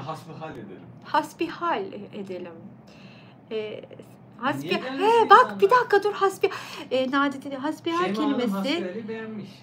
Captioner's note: conversation